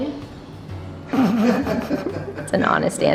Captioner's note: parents laughing